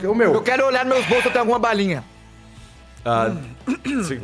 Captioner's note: exhales